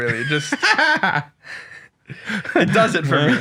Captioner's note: both laughing